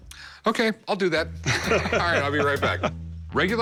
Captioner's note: laughter